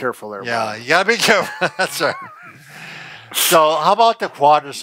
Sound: both laughing

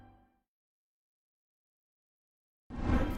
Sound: silence

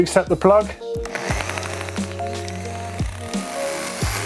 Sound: drilling

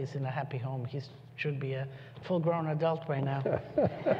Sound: laughter

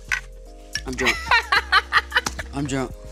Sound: laughing

